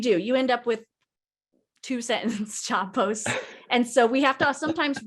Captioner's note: laughing